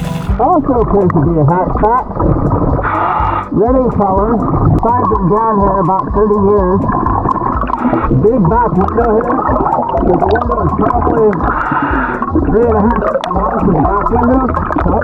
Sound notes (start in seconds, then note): 0.0 motor boat whirring; 2.3 oxygen bubbling in water; 2.7 oxygen tank hissing; 7.4 oxygen bubbling in water